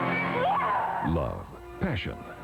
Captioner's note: ominous music intensifies; screams